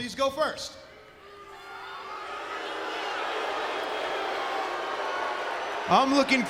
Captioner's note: crowd cheering